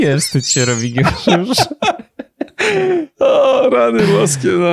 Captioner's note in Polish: śmiech